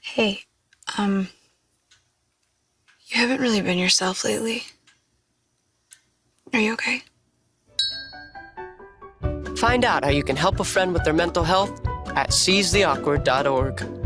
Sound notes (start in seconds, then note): 7.7 bell dinging; 9.2 upbeat music